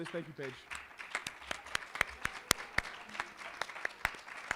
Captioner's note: applause